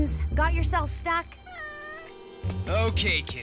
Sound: meowing

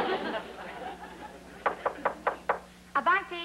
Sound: knock at the door

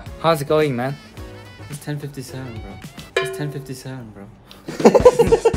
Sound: laugh

